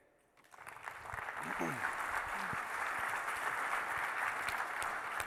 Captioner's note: audience applauds